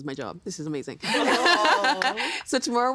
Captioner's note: laughing